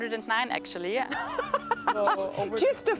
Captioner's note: laughing